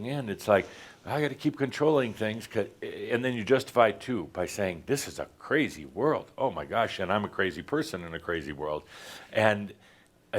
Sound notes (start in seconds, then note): none